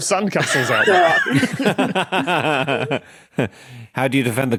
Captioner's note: group laughing